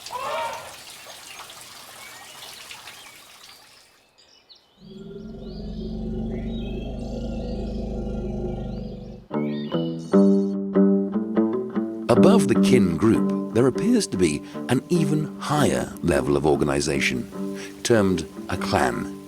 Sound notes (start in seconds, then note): 4.8 elephant rumbling; 8.8 soft music